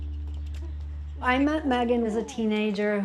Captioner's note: nature sounds